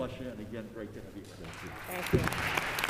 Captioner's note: applause